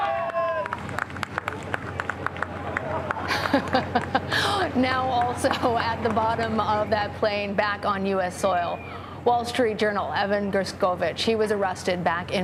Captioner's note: cheering and applause